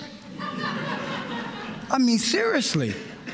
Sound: laughter

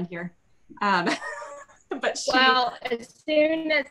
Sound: laughs

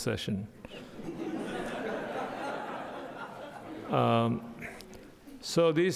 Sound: audience laughing

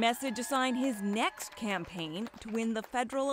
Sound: applause

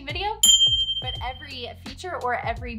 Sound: ding

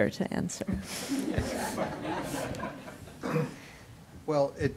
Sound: audience laughing

